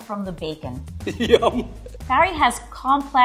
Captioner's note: laughing